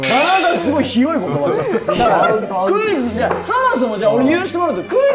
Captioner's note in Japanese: 一同：ざわざわ